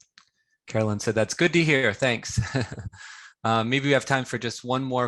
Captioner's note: laughs